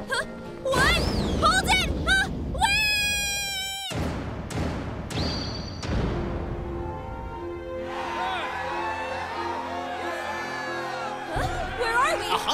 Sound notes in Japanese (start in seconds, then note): 7.8 歓声